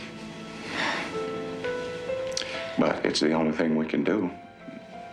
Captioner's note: none